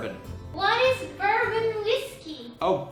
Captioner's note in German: Stimme eines Homesexuells; kawaii Stimme